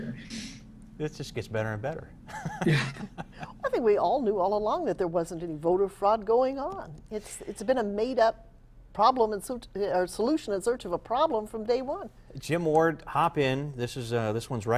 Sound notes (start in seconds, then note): 2.2 laughter